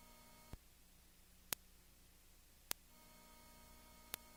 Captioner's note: clicking